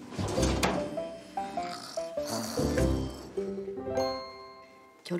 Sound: snoring

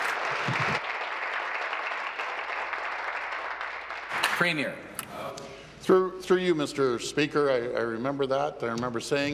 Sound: applause

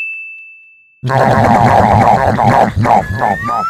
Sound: nom nom nom

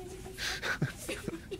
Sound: cameraman chuckling

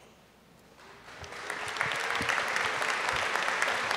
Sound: applause

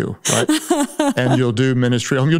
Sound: Paula laughing

